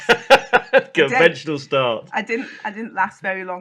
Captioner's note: laughs